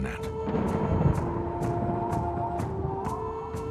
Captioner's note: wind whipping